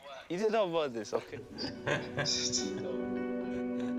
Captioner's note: laughing